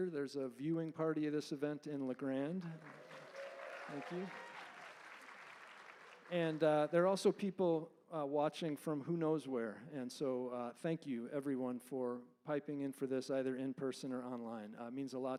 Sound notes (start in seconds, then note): 4.6 applause